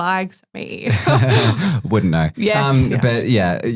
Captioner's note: group laughing